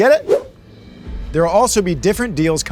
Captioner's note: air whooshing